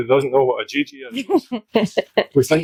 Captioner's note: unicorn laughs